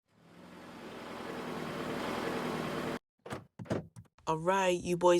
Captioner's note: car driving to curb